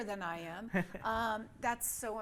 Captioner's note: laughs